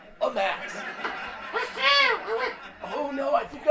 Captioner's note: loud, shrill, almost unintelligible voice